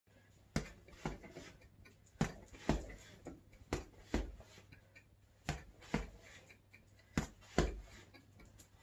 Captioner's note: punching sound